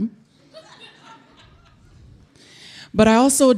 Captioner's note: audience laughing